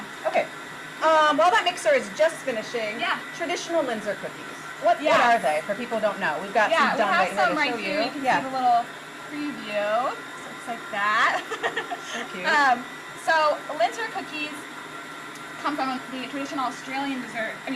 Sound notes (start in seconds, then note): 11.4 laughs